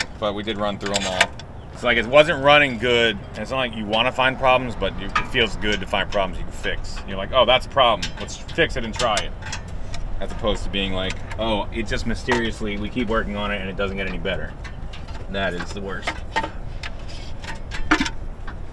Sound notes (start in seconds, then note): none